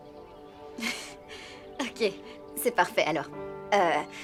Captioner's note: chuckling